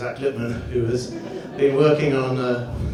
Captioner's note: audience laughs